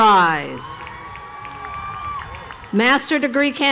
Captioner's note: applause